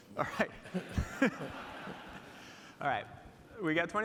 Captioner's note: audience laughing